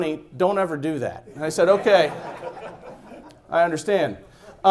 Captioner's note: laughing